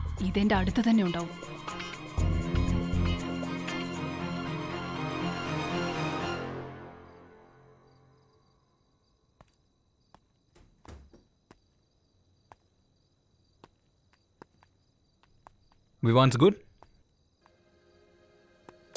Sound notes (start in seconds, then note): 10.1 Footsteps; 10.5 Door closes